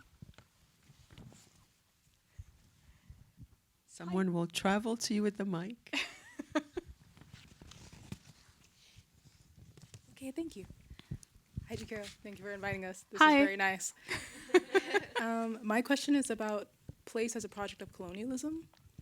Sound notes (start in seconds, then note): 6.0 chuckles; 14.2 attendees chuckle